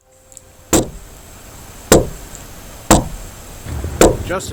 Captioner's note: door thudding